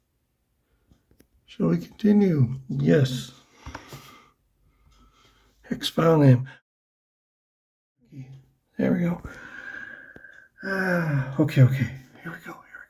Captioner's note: sighs